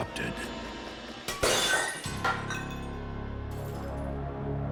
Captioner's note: ceramic shattering